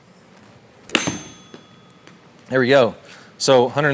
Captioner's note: bell sounding